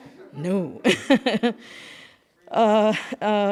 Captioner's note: laughs